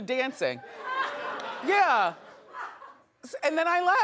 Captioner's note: audience laughing